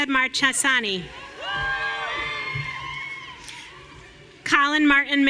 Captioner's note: audience cheering